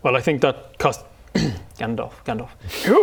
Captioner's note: ahem